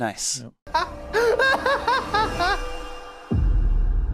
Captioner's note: man crying